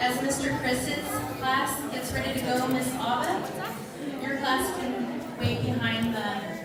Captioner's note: none